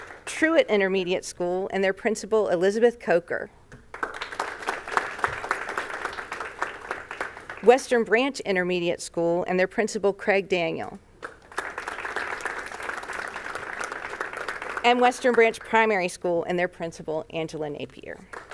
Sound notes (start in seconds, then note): 0.0 applause; 3.9 applause; 11.2 applause; 18.2 applause